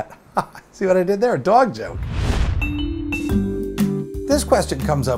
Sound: swoosh / music plays

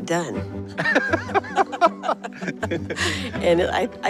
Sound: laughter

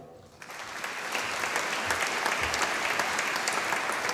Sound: audience applauding

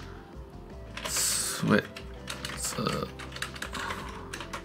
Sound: sighs

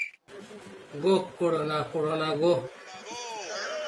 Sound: reciting

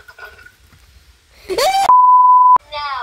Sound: screams

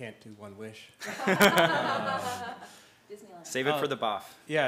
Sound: laugh

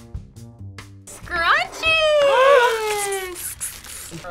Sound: gasps

